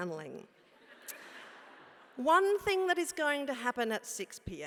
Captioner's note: laugh